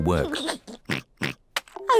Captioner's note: giggles and oinks